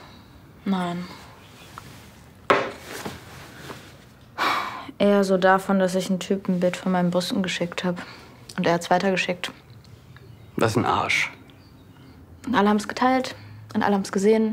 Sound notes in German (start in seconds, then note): 4.3 Seufzen